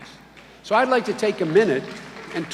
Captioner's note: clapping